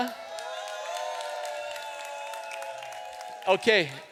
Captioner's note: applause